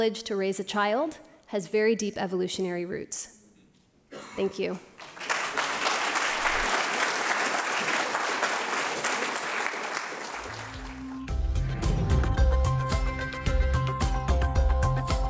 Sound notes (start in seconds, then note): 5.0 audience applauding; 10.6 light electronic music